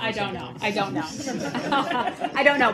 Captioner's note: laughter